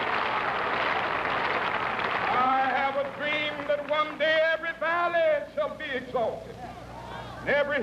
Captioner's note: cheering and applause